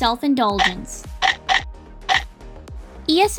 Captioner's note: chomping